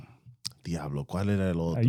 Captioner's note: speaking In Foreign Language